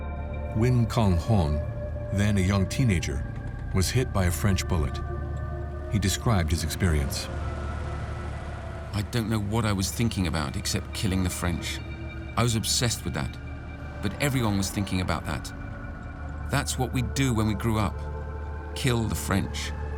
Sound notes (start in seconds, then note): none